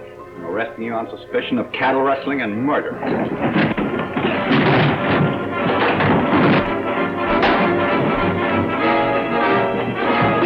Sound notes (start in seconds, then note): 3.0 suspenseful music; 4.3 men scuffle; 7.3 punch lands